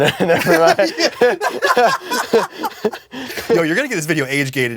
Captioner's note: laughs